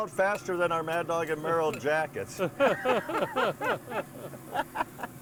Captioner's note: group laughs